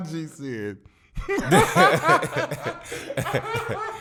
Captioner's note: laughter